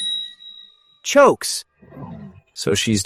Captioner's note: chokes